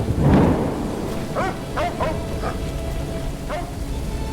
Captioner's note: dog barking